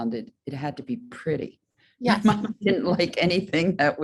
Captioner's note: laughs